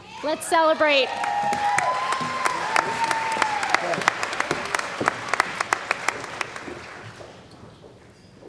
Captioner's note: cheering & Applause